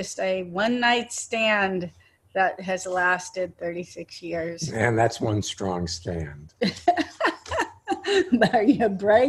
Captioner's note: laughing